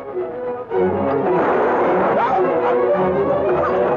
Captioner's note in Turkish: Tüfek sesleri